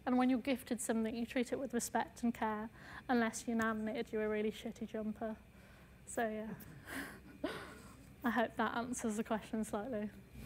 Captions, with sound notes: And when you're gifted something, you treat it with respect and care, unless your Nan knit you a really shitty jumper. So, yeah. (laughs) I hope that answers the question slightly.